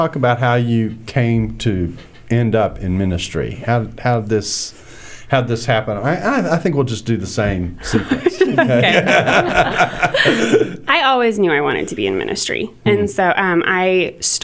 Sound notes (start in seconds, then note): 7.8 laughter